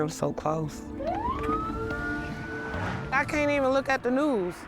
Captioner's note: police sirens